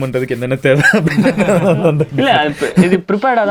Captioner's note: group laughs